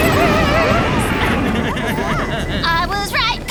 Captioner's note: thunder clap; sad man sobs